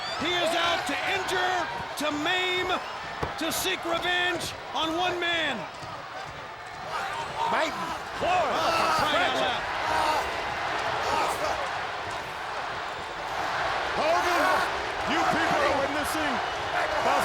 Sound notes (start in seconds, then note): 6.9 wrestlers grunting